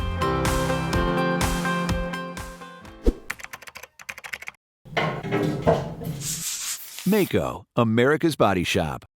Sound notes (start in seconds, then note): 3.3 typing; 5.0 creaking metal and spray paint sounds